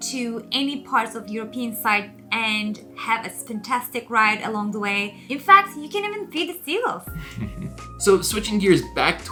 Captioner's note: laughing